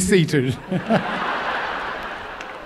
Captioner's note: laughter